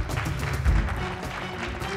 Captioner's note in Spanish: aplausos